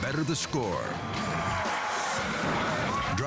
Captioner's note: crowd cheering